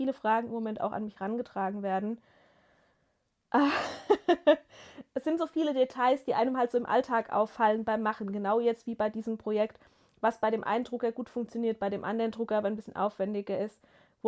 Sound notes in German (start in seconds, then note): 3.6 gelächter